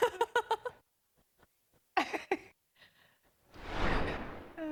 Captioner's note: laughter